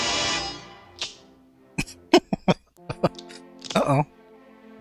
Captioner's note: laughing